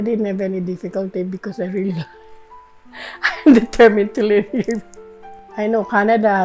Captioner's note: laughter